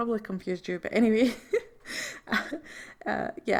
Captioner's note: laughs